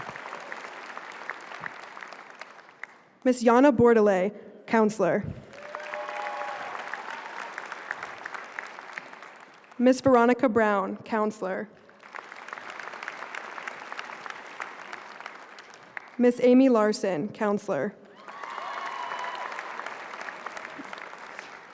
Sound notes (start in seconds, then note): 0.0 applause